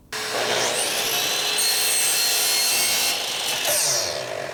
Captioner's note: electric saw whirring